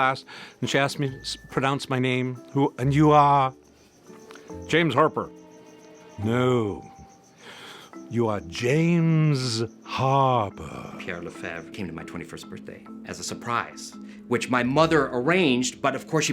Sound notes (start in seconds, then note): 4.6 in midwestern accent; 5.8 very theatrical accent